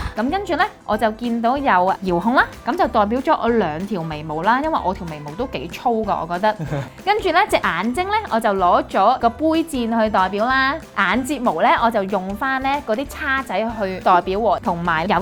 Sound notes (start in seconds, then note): 6.4 chuckles